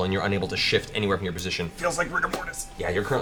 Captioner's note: strained